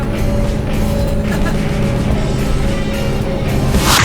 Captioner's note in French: rire